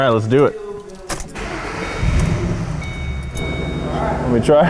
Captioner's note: car starting